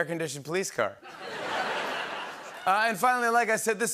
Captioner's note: laughter